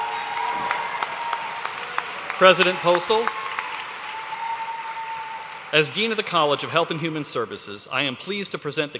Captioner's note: cheers and applause